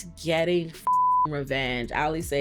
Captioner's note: beep